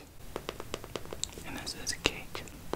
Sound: tapping

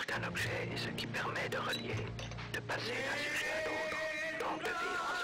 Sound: narrates in foreign language

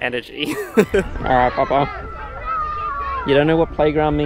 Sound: laughing

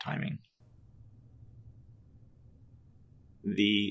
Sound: silence

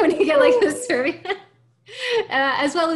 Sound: laughing

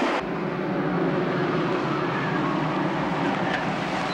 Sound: vehicle rumbling

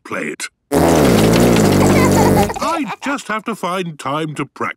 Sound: laughter

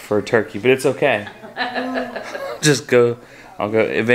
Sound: laughing

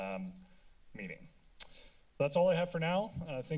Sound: tongue clicking

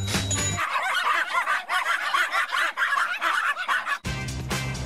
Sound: bell dings; dogs bark

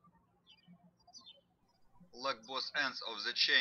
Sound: birds chirping

